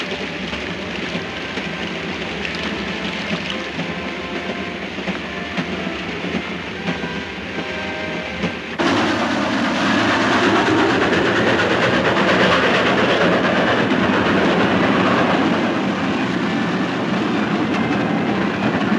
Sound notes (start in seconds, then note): 9.0 train roars